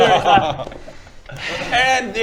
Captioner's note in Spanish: suspiro